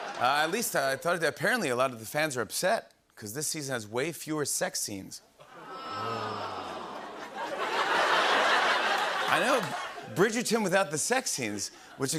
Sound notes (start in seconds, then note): 5.4 audience ohs; 7.3 laughter